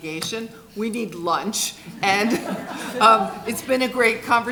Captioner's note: laughing